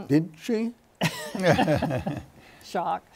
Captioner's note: laughter